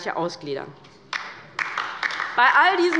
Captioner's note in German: Beifall bei der LINKEN